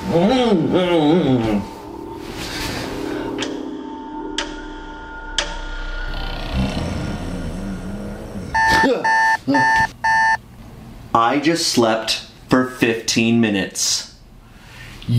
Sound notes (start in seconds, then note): 0.0 groaning; 3.5 clock ticking; 6.2 snoring; 8.5 alarm clock beeping